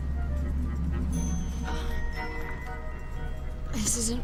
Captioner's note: moaning